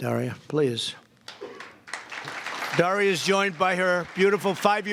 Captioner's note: applause